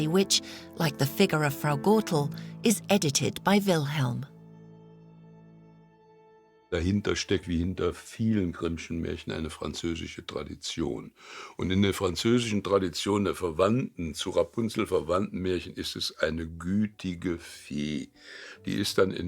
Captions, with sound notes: which, like the figure of Frau Gothel, is edited by Wilhelm. (speaking in foreign language)